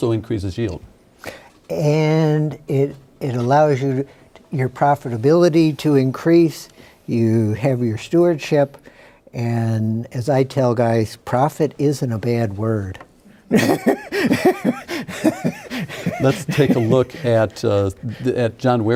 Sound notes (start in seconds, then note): 13.5 laughing